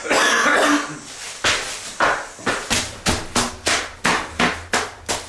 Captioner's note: stomping